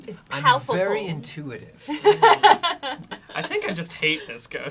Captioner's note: laughs